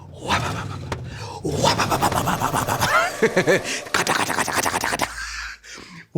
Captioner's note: engine starts